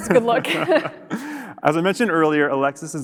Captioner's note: both laughing